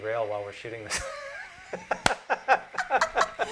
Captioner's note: laughter